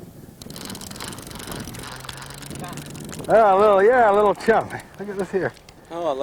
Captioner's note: rattling